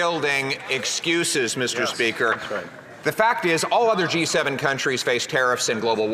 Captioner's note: some Applause